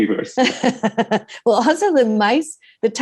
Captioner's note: laughing